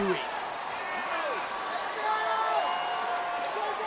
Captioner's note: crowd yelling